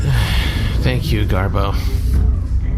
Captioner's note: sighs